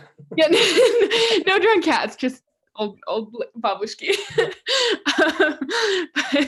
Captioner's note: laughs